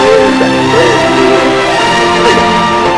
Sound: crying

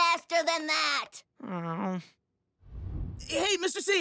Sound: groaning

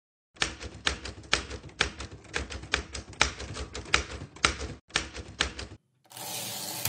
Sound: typewriter keys clicking

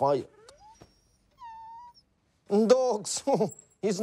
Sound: dog whines

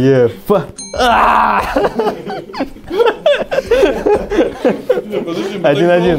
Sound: laughing

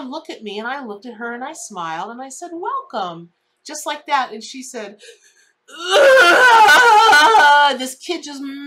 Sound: crying noises

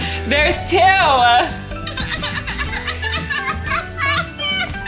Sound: both laughing

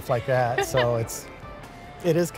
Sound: chuckles

